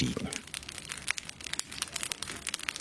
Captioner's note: comfortable crackling